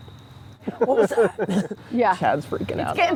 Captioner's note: laughs